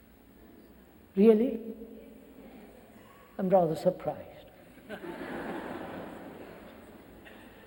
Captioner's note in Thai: เสียงหัวเราะ